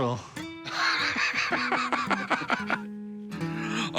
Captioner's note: laughs